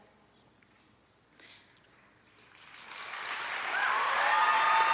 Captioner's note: applause